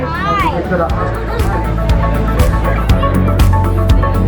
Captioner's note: laughs